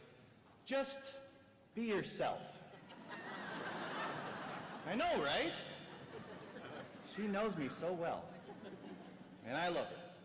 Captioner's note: laughter